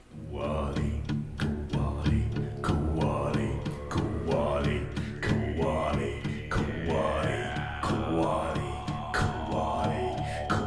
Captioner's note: chanting